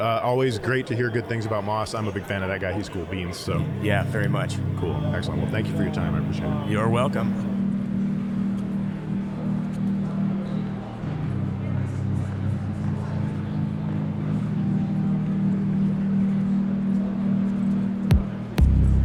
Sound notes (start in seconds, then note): 8.5 chill ambient music; 8.5 general chatter